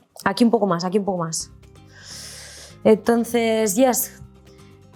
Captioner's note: speaks in Spanish